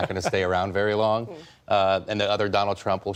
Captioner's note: laughter